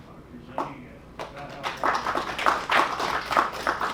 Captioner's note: crowd: thank you, applause